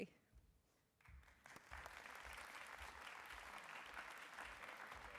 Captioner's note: applause